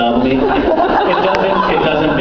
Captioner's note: laughing; laughs